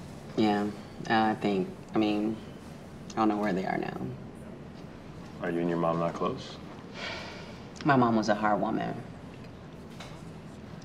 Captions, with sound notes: Yeah, I think. I mean, I don’t know where they are now. Are you and your mom not close? [sigh of exasperation] My mom was a hard woman.